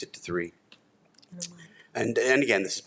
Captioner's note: trustee speaking faintly